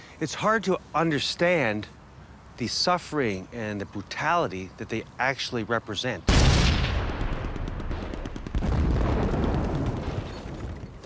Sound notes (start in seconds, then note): 6.2 artillery exploding